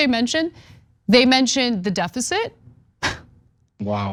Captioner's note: laugh